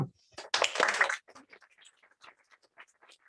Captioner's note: applause